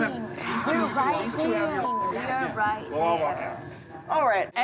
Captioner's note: beep